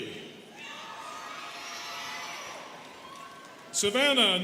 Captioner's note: students cheering